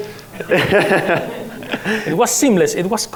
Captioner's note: laughs